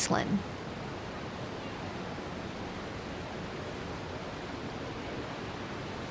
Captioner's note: people chattering indistinctly